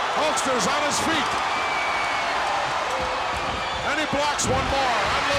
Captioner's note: audience cheers